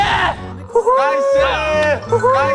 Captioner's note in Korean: 격노하는 함성